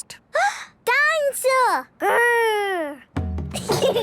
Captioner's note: gasps; children giggling